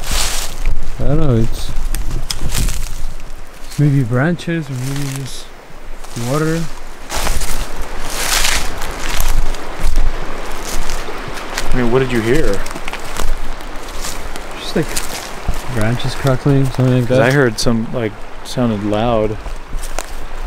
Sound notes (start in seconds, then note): 0.2 leaves crunching; 7.3 leaves crunching; 7.3 water flowing